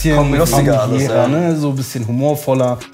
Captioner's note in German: Stimmengewirr